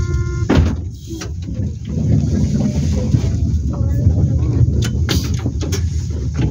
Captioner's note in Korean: 출입문 열림